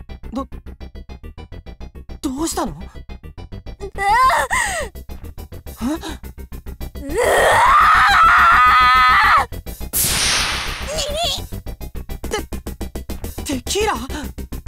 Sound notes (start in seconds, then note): 7.2 enraged scream